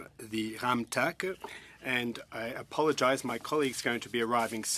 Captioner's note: speaking French